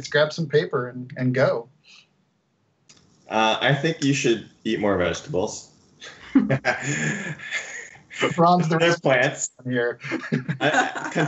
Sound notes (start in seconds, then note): 6.0 laughs